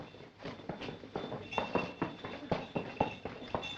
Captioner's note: bells ringing